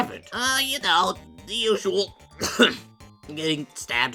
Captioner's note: coughs